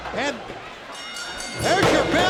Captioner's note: bell rings